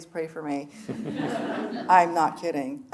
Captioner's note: audience laughing